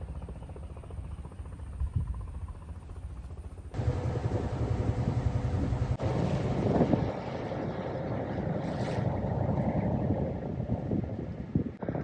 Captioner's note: engine running